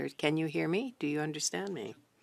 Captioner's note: speaking French